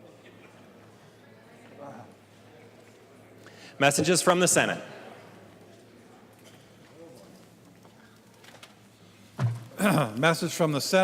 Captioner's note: gavel